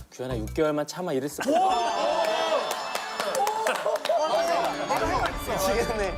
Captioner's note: laughter